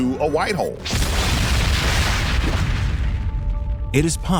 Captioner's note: explosion